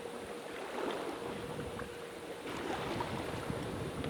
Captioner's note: water splashing